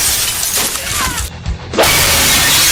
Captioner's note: glass breaking; exclaims; crash